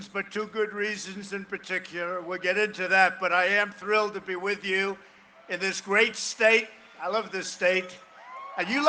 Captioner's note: cheering and applause